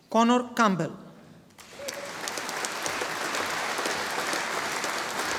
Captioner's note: audience applauding